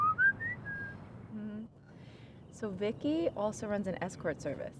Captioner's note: Charles whistling